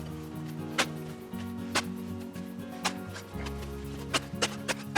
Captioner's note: digging sound